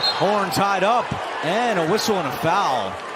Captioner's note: whistle